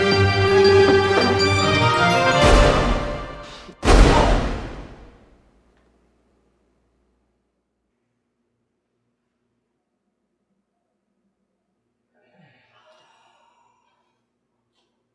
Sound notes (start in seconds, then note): 3.7 gunshots